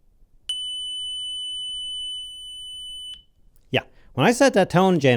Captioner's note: tone generator beeping